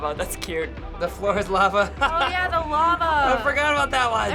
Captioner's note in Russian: смеется